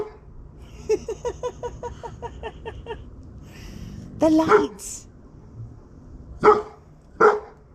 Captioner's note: laughter